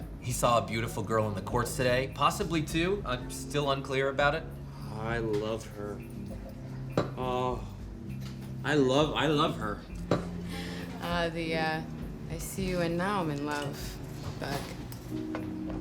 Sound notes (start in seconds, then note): 4.8 drunkenly; 7.2 sighs